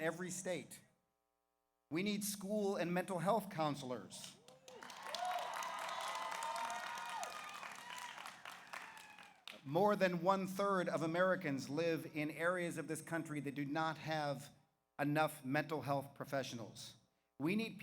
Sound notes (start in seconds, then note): 4.4 audience applauds; 4.5 audience cheers